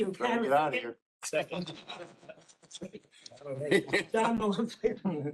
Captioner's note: laugher